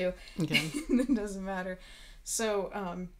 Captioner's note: laughing